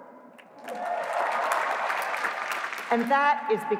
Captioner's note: applause